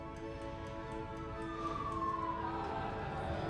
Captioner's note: siren blaring